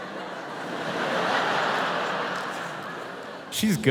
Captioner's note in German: Publikum lacht